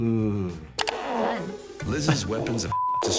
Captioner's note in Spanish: concursante tirándose un pedo